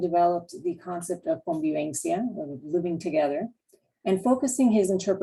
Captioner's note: spanish